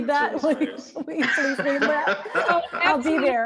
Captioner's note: all laughing